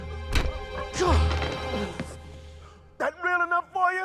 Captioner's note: groans; grunts